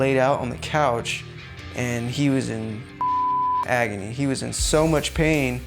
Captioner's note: beeping